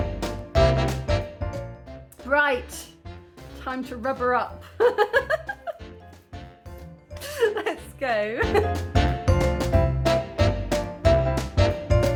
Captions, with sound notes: Right, time to rubber up. [laughing] Let's go. [ragtime music]